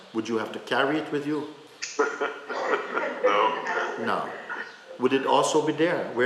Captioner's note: laughter